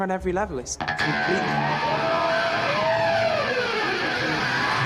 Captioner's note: electric guitar playing; crowd cheering